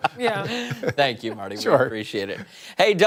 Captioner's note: laughter